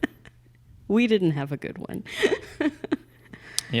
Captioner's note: laughing